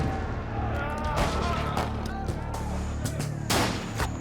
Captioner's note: yelling